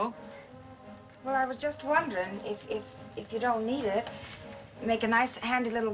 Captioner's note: stuttering